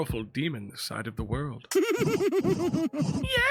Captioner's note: Jester laughs